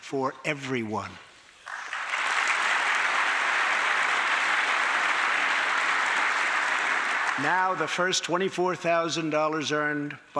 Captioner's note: applause